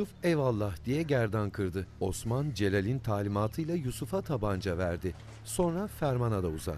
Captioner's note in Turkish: Nefes sesi